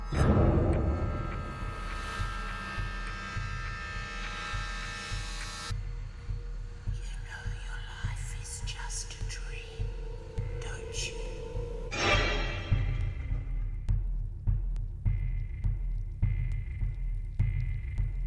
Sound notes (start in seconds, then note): 6.9 creepy voice